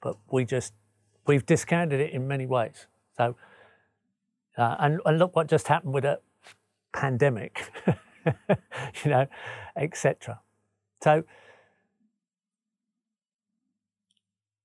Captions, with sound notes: But we've discounted it in many ways. And look what just happened with the pandemic, (laughs) you know, et cetera.